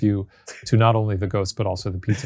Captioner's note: chuckling